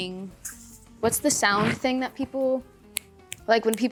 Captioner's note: snaps fingers